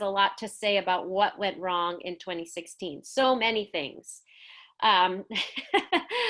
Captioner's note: laughs